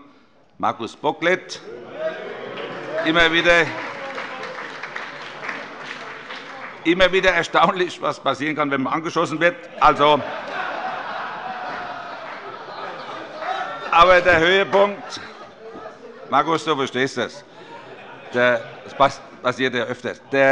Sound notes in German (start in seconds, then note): 2.5 Beifall